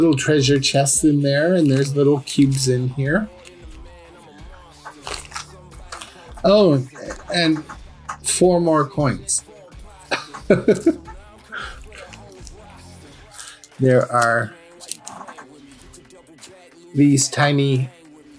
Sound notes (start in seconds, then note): 10.1 giggle